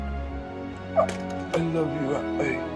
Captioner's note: groaning